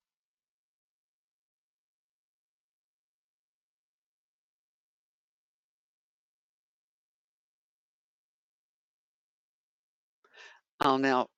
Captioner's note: 10 seconds pause